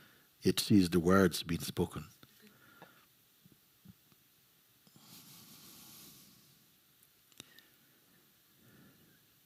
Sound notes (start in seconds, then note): 3.0 silence